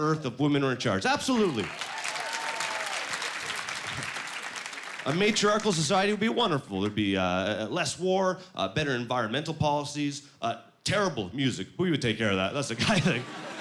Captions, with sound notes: if women were in charge, absolutely. (Applause) A matriarchal society would be wonderful. There'd be less war, better environmental policies, terrible music-- but we would take care of that; that's a guy thing.